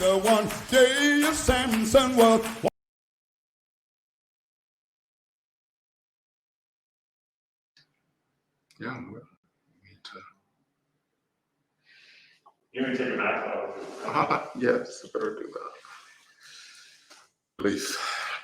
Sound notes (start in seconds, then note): 13.0 laughs